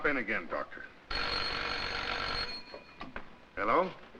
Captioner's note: telephone rings